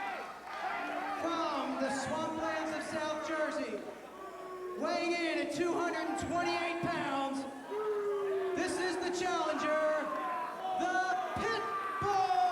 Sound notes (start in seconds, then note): 2.9 crowd cheering